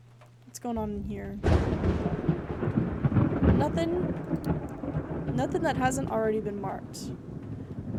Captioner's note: thunder Rumbling